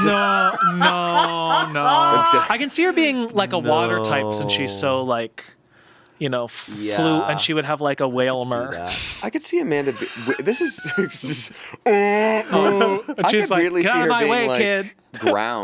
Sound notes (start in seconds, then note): 0.0 everyone laughs; 9.8 everyone laughs; 11.8 groans